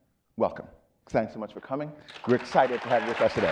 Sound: audience applauding

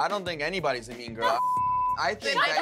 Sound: beep

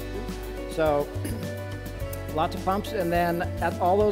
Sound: clears throat

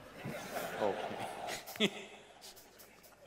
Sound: laughter; laughs

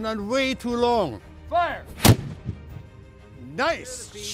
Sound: cannon fire

